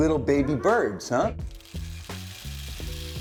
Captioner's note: seeds pattering